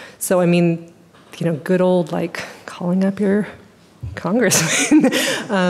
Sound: laughing

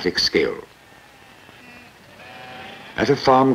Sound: sheep bleating

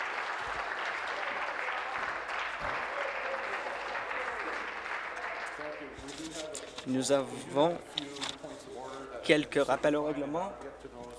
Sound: applause

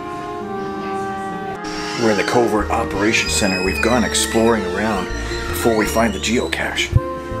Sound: whispering

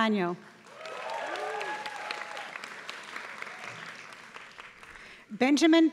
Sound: applause

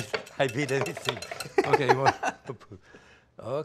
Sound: Ming laughs

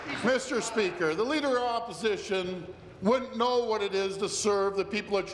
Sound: applause

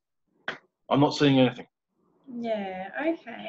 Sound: claps hands

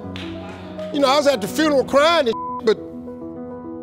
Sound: beep

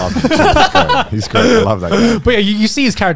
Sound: laughing

